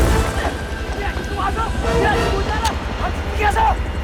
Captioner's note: Kang Shouting In Korean